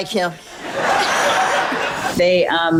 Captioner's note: audience laughs